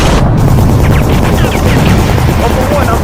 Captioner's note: gunshots firing